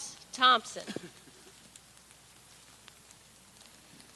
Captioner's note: person laughs